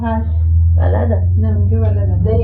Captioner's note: speaking in Farsi